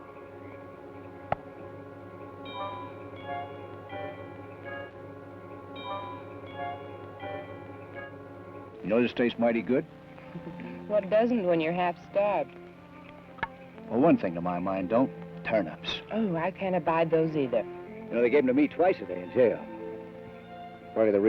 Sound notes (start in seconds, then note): 10.2 chuckles